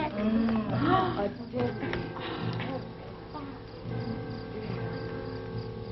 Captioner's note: girls gasping; somber music